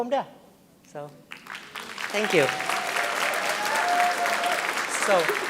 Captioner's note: audience applauding